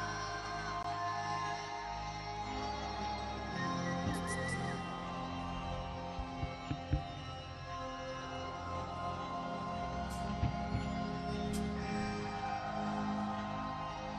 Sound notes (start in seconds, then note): 3.9 clicks tongue